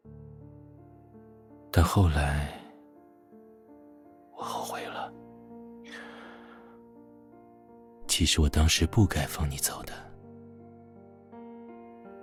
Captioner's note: whispers